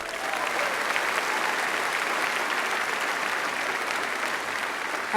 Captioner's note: applause